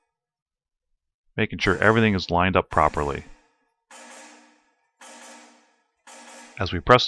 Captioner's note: press noise